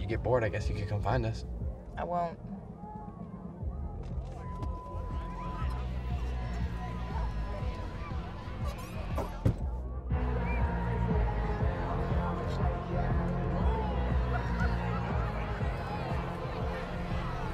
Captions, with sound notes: - If you get bored I guess you can come find us. - I won't. (crowd chattering) (heavy rock music)